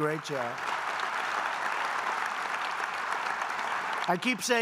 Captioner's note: applause